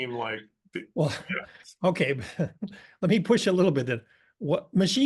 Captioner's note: laugh